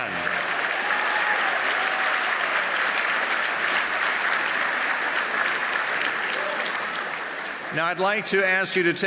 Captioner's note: applause